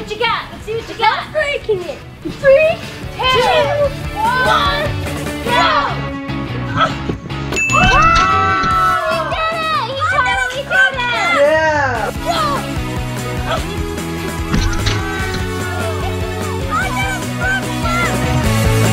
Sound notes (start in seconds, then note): 5.5 upbeat rock music; 7.5 bell chiming; 7.7 cheering